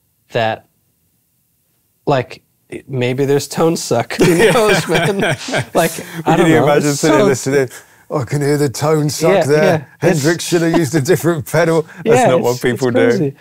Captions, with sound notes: that like maybe there's tone suck. (laughing) - Can you imagine sitting here listening "(SILLY VOICE) I can hear the tone suck there." "(SILLY VOICE) Hendrix should have used a different pedal." That's not what people do.